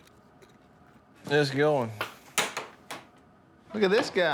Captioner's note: clatters